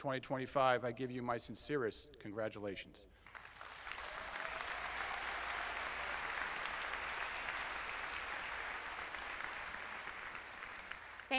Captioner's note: applause